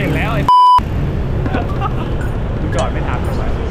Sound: chuckles

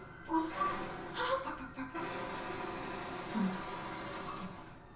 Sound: imitates gunfire

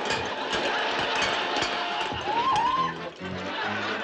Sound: audience laughs; Alice screams

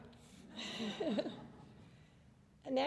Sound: laughter

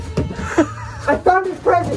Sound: laughs

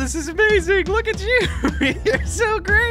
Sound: laughs

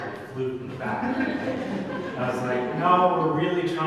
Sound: audience laughs

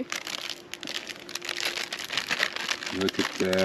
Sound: bag crumbling

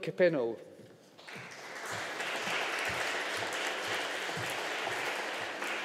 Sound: audience applauding

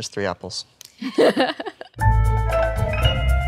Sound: Ashley laughs

